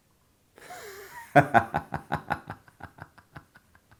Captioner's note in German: lacht